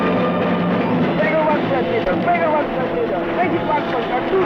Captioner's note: yelling